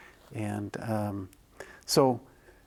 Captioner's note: none